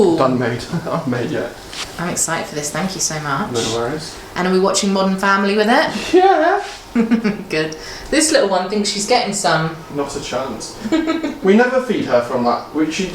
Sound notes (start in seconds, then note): 6.8 chuckles; 10.8 laughs